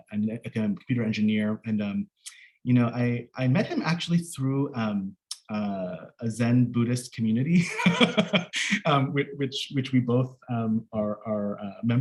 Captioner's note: laughs